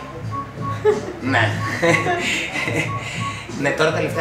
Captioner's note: laughter